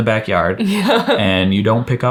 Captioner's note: chuckles